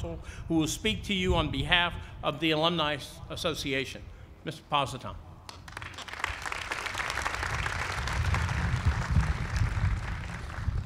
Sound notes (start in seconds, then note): 5.4 applause